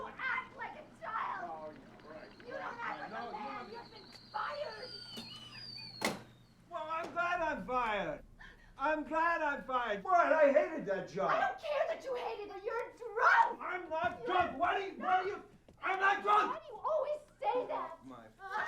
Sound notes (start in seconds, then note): 2.4 screaming; 5.9 whistles